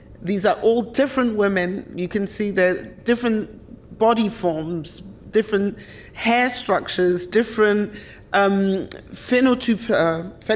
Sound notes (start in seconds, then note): 7.8 speaks German